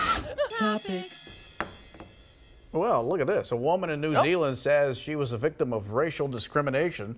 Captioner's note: laughter